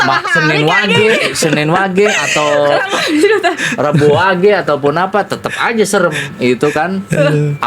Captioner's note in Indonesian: tertawa